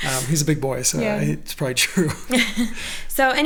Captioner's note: laughing